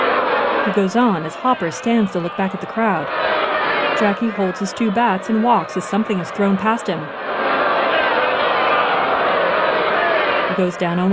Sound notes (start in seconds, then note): 2.9 booing continues